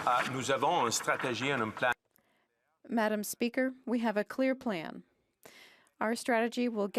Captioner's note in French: applaudissements